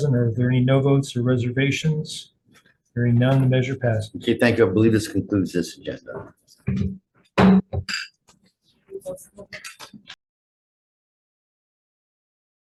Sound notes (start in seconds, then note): 7.4 gavel bangs